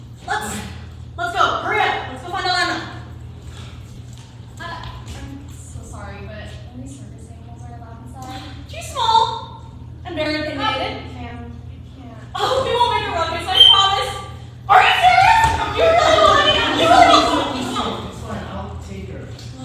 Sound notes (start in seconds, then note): 13.4 blows whistle